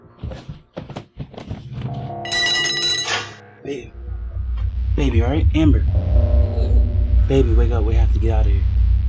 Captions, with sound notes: [ AXE DROPS TO FLOOR ] Baby. Babe, you alright? Amber? [ AMBER MOANS ] Baby, wake up. We have to get out of here.